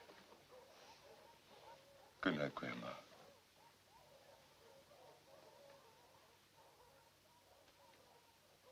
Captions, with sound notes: - Good night, grandma. (dogs barking)